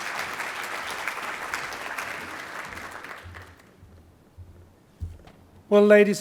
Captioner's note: applause